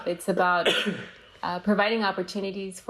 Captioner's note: coughs